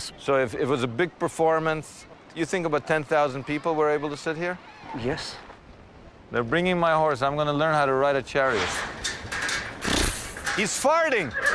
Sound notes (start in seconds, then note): 9.5 horse neighing